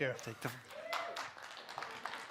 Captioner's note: applause